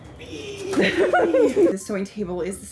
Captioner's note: laughs